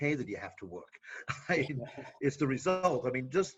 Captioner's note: laughing